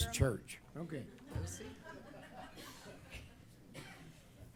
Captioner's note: laughter